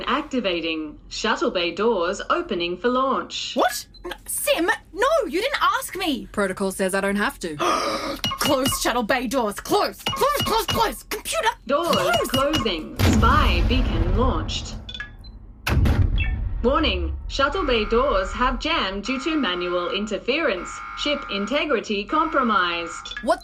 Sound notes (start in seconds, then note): 16.1 alarmed tones sound